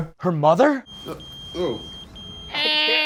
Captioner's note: beeper going off; mimics dial-up internet noises